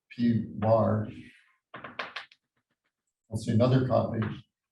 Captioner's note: chalkboard tapping loudly